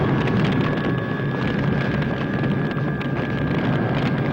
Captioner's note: fire crackles